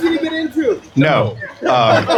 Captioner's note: laughter